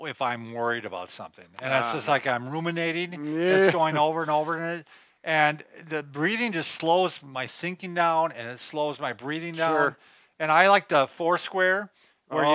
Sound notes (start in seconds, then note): 3.1 moans disagreeably